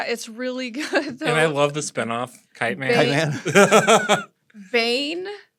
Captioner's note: laughter